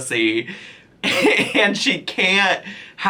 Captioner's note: chuckles